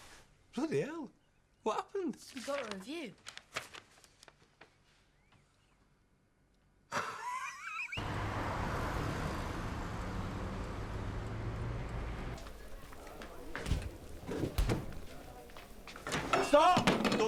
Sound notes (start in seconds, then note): 6.9 Loz laughs; 8.0 engine rumbling; 12.3 patrons chattering; 13.1 food sizzling